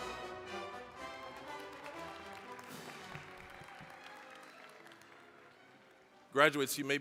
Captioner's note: applause